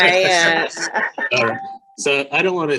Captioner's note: laughing